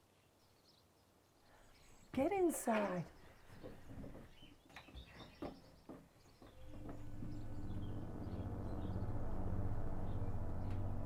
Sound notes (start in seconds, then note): 3.2 birds chirping; 7.4 ominous and menacing electronic music